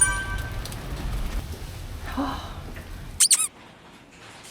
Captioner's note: sighs with relief